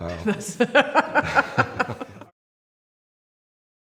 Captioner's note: laughing